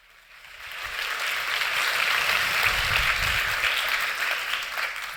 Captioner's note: audience applauding